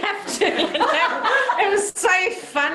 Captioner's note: laughter